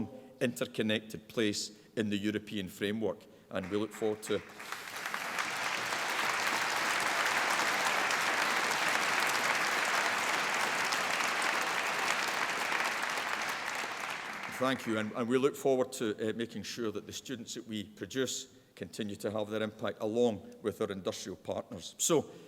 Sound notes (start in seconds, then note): 5.7 applause